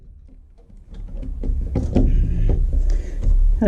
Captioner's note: sawing noises; whatever noise a saw makes when it's stuck